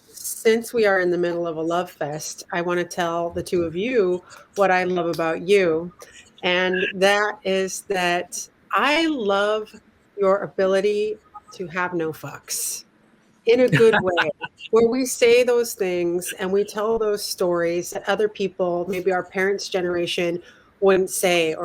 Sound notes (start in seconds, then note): 13.7 laughter